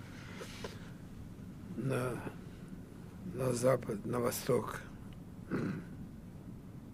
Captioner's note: coughing